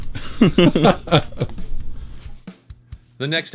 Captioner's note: laughing